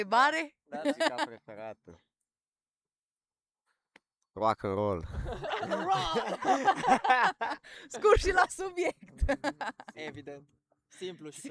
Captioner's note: everyone laughs